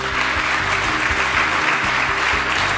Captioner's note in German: Applaus